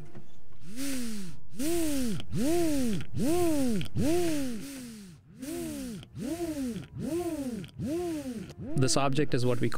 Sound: whir

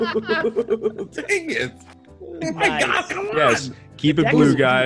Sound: laugh

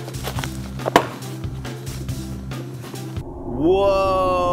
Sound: loud pop

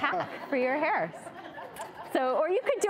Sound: audience laughing

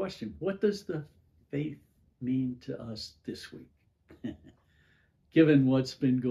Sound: chuckles

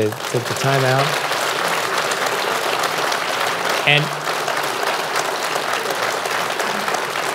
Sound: applause

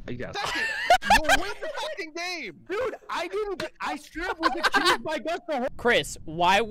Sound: laughter

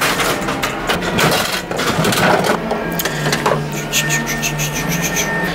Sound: coins clinking; crank turning

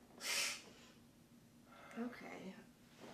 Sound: Rob hisses

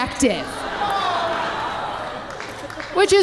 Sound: audience laughing

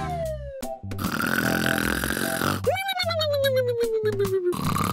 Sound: slide whistle descending; snoring

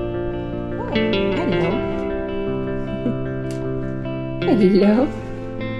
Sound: chuckles

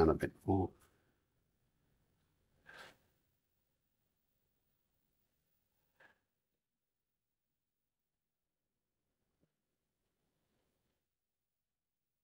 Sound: silence

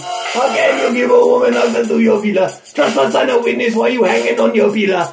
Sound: deep voiced

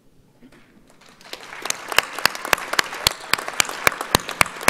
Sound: audience applauds

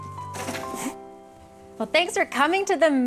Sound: gentle music continues; trash thumping

